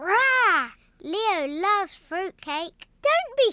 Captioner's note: none